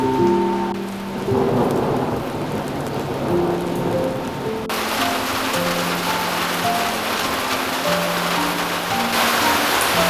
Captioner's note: listen to sound of raindorps